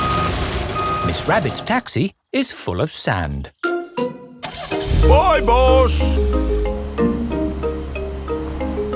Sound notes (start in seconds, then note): 4.4 car engine starts